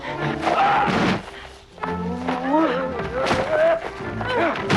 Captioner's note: body slamming